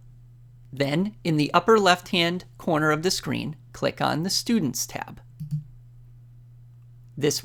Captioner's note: click